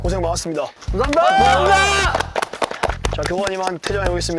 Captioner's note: applause for the hardworking returning students